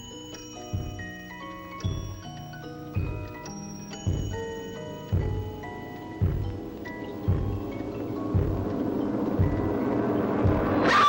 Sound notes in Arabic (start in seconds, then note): 3.9 موسيقى هادئة; 5.1 خطوات الأقدام تصبح أعلى; 7.0 موسيقى متوترة; 10.8 تصرخ